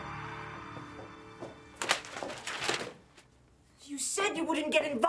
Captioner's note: heels clack; paper rustles